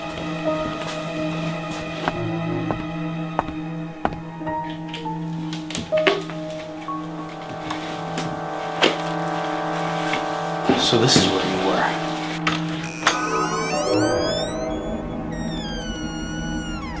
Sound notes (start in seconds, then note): 1.8 footsteps approaching